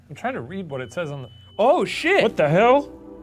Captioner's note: light beeps